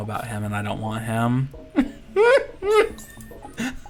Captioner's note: laughter